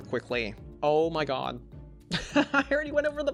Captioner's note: laughs